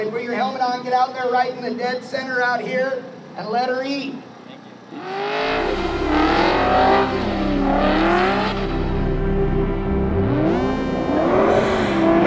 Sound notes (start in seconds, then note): 4.9 engine roaring; 8.4 dramatic music